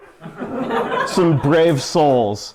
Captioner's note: laughter